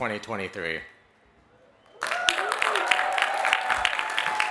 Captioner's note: applause